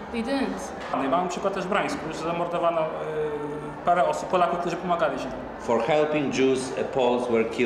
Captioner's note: speaking Polish